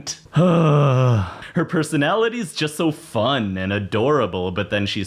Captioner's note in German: seufzt